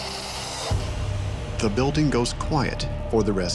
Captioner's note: voiceover